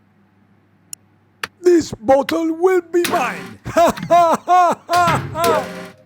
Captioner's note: evil laughter